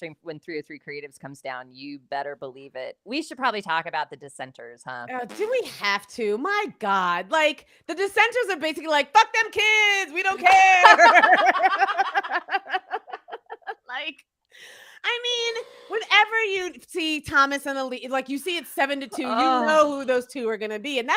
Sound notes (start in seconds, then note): 10.7 both laughing